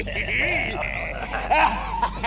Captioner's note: laughing hysterically